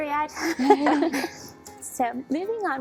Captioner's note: laughing